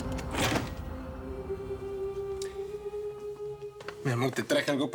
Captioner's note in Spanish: sonido al abrir la puerta